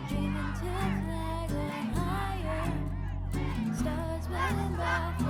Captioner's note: protesters chanting